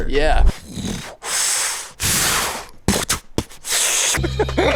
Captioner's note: hisses; pants; laughs